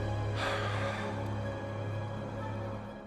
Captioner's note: exhales sharply